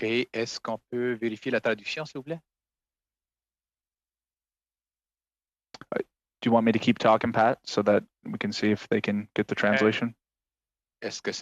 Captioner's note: speaking French